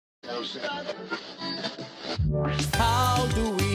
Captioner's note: radio stations chattering; radio static crackling